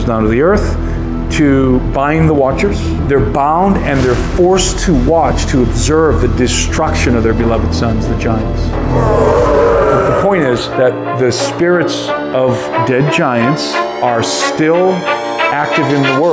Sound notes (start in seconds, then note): 8.8 roaring